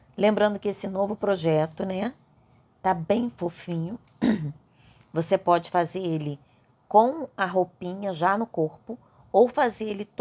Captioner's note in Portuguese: limpando a garganta